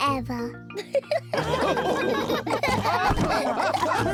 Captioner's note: all laughing